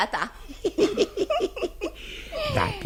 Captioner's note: chuckles with laughter